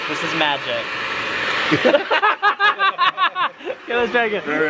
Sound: laughing

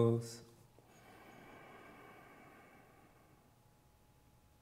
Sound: inhales

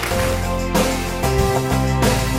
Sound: audience applause

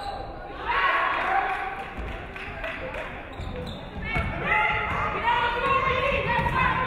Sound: audience cheering; audience clapping

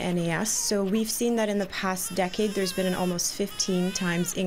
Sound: baby crying

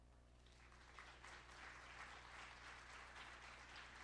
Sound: applause

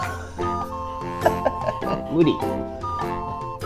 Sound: laughs

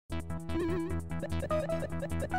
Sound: electronic sounds

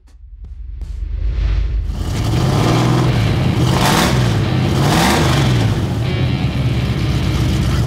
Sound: engine revving; rock music

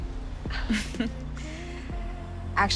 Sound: both chuckle

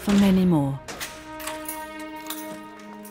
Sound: lock clicks; somber music

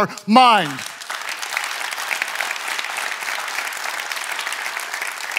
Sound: audience clapping

